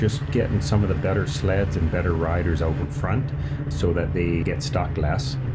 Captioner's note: snow mobile engine revving